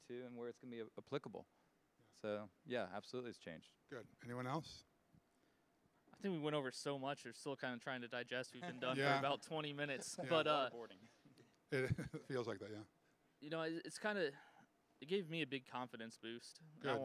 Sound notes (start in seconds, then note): 11.7 laughing